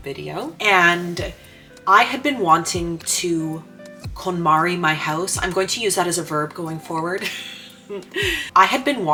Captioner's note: laughs